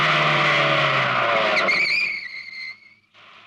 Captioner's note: brakes squeal